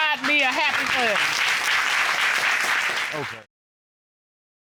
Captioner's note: applause